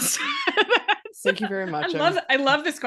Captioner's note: laughing